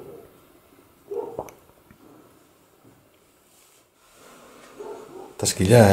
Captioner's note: evp sound